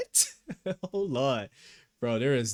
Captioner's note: laughs